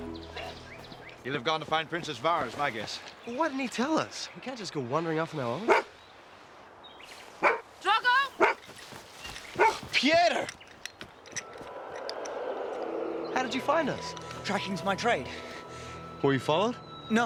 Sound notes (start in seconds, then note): 5.6 Alvar barks